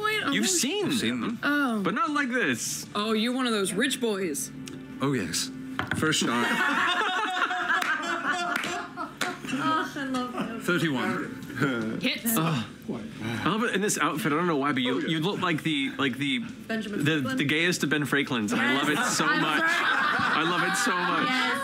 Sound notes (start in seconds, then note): 6.3 laughter